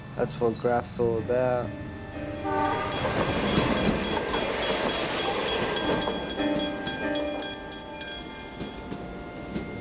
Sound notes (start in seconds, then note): 1.8 train horn blares; 3.0 level crossing alarm ringing